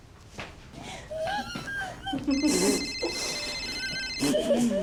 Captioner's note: phone ringing; whimpering